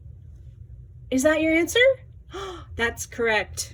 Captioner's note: gasps